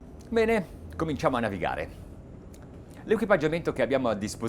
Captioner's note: speaking Italian